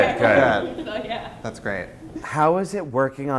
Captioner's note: voiceover